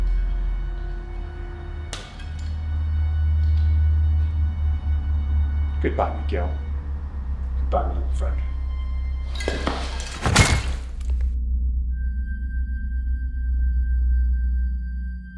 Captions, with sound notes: [suspenseful music] Goodbye, Miguel. - Goodbye, my old friend. [iron clanks] [mysterious music]